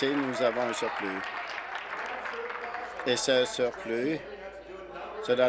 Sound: applause

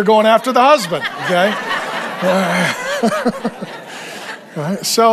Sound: everyone laughing

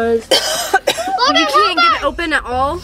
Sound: mom coughs

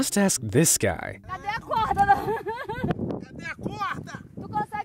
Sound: foreign language

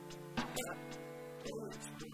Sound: chuckles

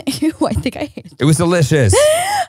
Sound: laughs

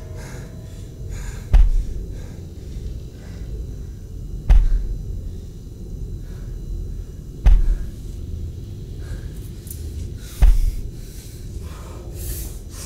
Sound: distant banging

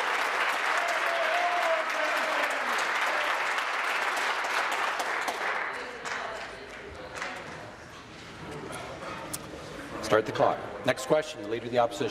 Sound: applause

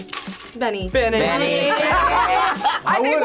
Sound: laughs

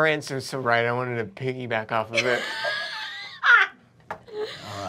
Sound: laughter

